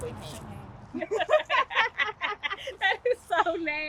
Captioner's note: women laughing